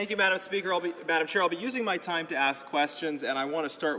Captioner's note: speaking english